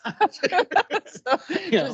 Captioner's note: laughing